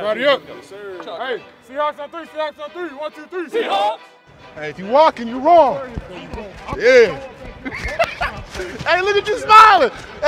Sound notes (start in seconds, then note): 7.5 laughs